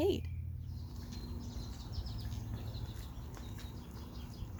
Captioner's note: birds chirping